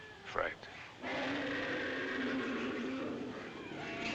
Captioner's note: roaring